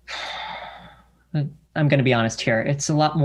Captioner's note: sighs